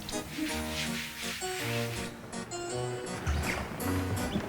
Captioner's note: scrubbing floor; jaunty instrumental music